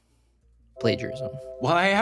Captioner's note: text chiming